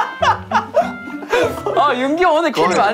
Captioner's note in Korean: 꺄르르